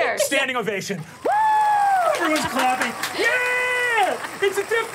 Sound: audience applauding

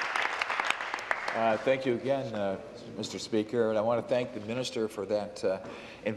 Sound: applause

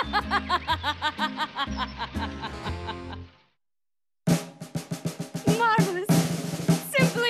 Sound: evil laughter

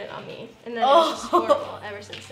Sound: disgusted exclamation

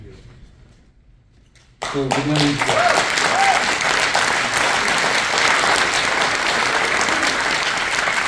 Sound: applause

